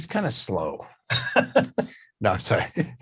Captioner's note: laughs